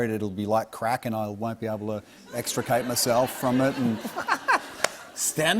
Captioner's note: laughter